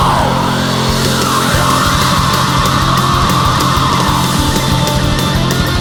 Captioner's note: scream